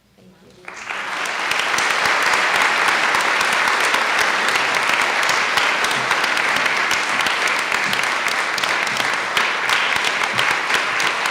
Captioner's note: applause